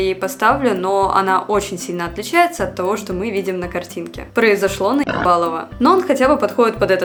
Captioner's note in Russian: хрю